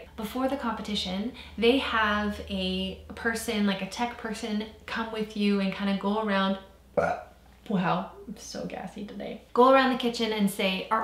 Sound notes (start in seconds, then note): 6.9 burps